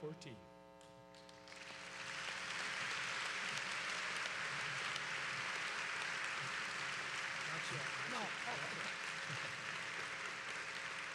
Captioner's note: applause